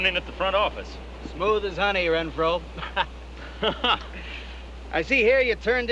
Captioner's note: laughing